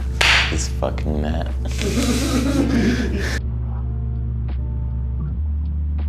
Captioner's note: laughter